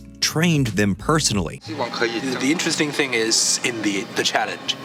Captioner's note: non-english speech